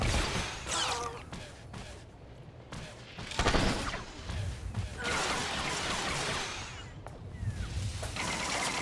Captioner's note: gun firing